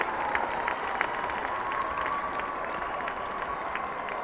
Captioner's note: applauding